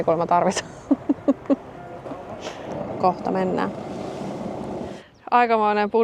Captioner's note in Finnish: naurua